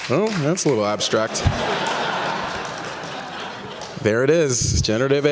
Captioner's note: laughter